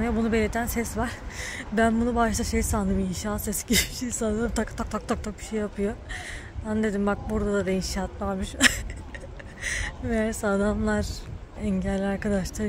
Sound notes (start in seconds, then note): 8.5 haha